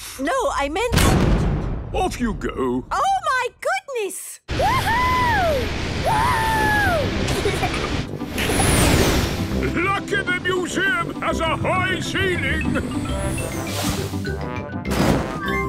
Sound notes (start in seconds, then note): 1.3 blasts off; 6.1 rocket thrusting